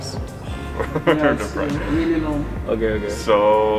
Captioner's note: chuckles